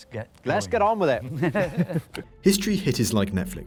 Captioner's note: both chuckling